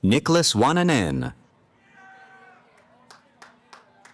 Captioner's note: cheering